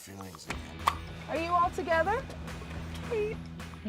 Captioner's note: pop